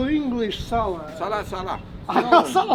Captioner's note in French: rires